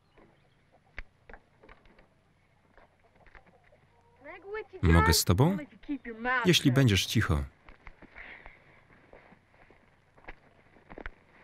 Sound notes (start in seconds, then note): none